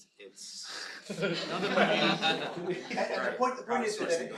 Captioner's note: laughter